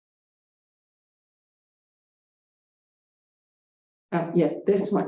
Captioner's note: silence